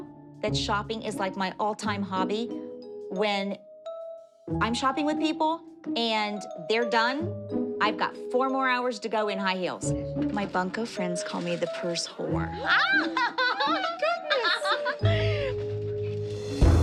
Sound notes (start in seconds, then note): 12.5 laughs